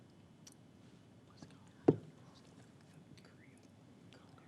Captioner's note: whispers